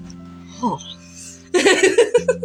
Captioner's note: laugh; soft Gasp